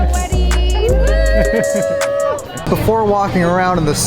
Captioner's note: cheers